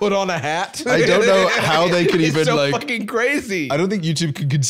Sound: laughing

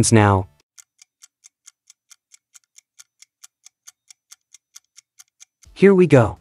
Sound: timer Ticking

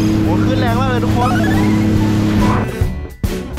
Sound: engine rumbling; joyful music playing

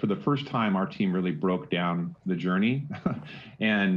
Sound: laughs

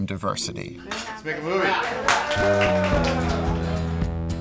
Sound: cheering; western music

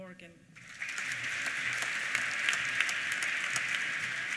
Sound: applause

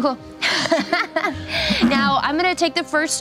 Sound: laughing

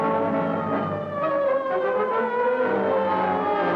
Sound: sirens

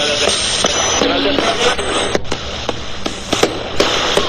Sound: EVP machine buzzing

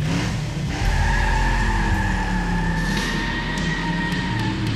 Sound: tires scretch, car pulls away

